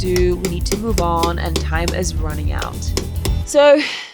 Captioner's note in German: Hammerklopfen